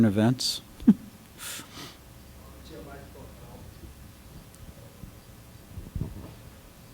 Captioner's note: laughter